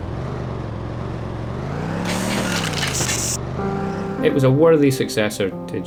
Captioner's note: car engine revving